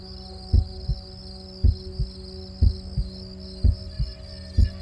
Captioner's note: heartbeat thumping